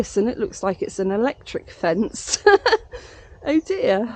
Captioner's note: laughing